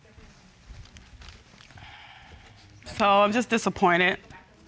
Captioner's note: sighs